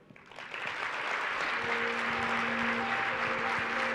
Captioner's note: applause